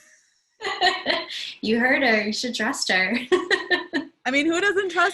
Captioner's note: laugh